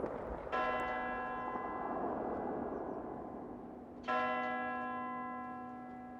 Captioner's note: bell tolling